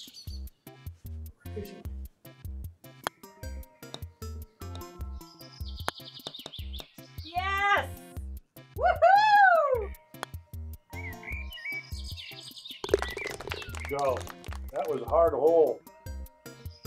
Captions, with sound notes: (ball clacks) - Yes! Woohoo! (ball falls in cup, applause) - Yo. That was a hard hole.